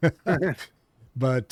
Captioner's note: laughing